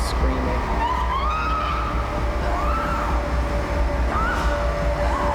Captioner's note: screaming